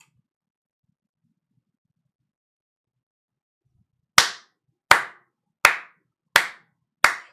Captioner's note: clapping